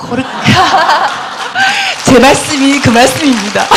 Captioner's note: audience/Questioner Laughter and Applause